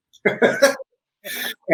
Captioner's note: laughter